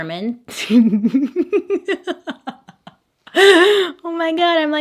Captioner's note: laughs